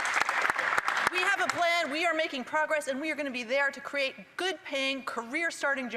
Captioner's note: applause